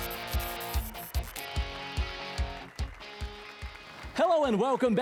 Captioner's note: applause and cheers